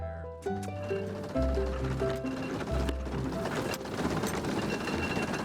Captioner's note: reaper rattles